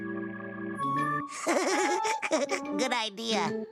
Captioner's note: laughing